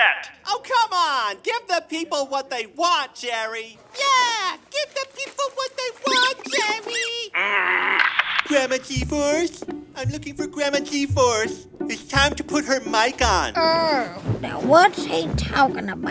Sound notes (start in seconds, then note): 6.0 soundbite of squeaks; 8.5 frustrated noise; 13.6 soundbite of rustling